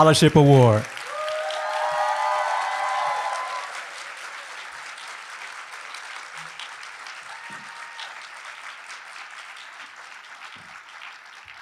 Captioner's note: applause